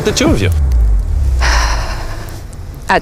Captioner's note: sighs